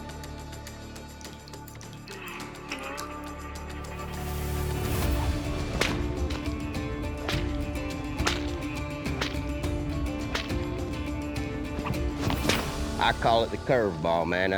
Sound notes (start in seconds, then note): 5.0 cracking whip